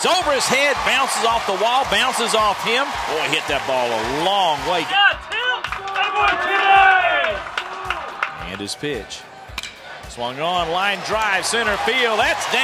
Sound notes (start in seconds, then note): 4.6 cheering; 9.3 bat hits ball